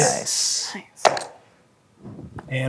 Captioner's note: dice rolling